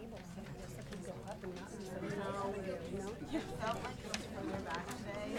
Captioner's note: people chattering